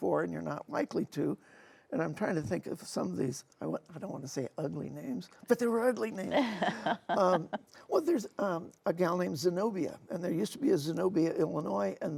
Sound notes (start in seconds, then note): 6.2 laughing